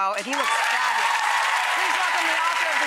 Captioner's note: audience cheering